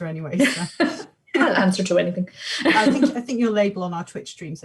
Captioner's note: laughs